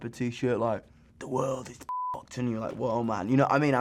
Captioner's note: beep